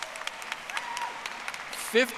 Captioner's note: audience applauding